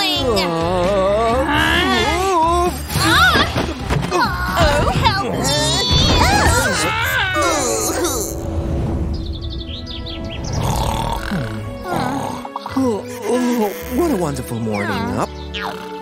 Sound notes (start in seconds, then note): 0.3 screaming; 4.4 making angry sounds; 10.5 grumbles; 10.6 yawns; 10.6 snoring